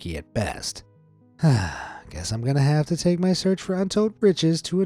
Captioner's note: sighs